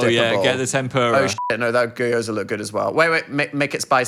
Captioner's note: beep